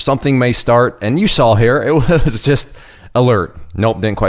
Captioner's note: laughing